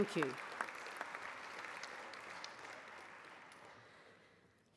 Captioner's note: applause